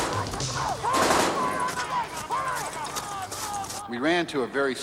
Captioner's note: all shouting